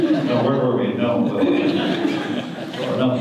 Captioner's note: audience laughter